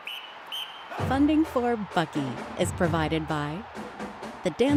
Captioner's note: crowd cheers; whistle blows